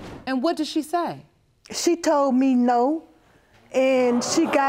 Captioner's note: audience exclaiming